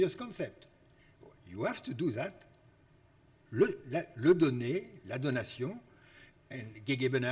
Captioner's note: speaks foreign language